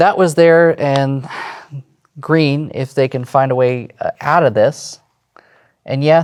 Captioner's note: sighs